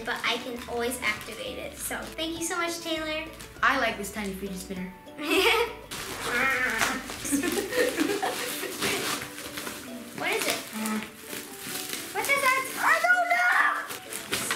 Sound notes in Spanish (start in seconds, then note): 5.3 gruñidos; 5.3 risas